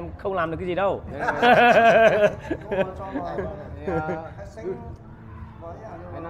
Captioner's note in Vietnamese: Tiếng cười